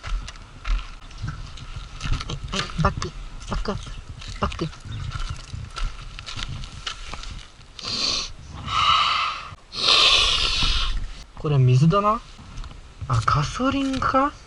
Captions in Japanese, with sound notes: (息を吹き出す) (ズズッ) これ水だな？ あ ガソリンか？